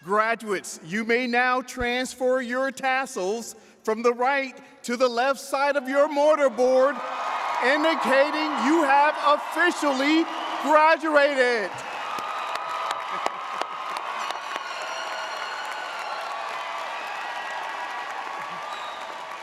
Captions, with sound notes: Graduates, you may now transfer your tassels from the right to the left side of your mortar board, indicating you have officially graduated! (audience cheers)